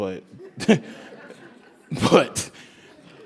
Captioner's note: laugh